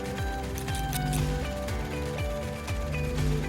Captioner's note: static buzzing; scissors snipping; upbeat music